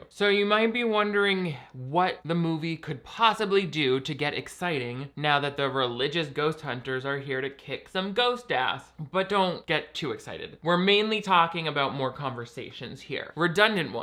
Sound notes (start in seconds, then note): none